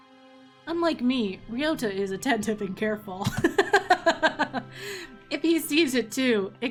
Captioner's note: laughs